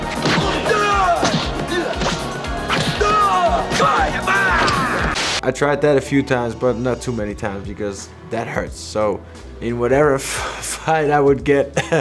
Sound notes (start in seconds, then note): 0.0 upbeat music; 0.2 both exclaim; 3.0 man exclaims; 11.7 chuckles